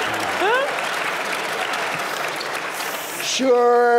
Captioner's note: applause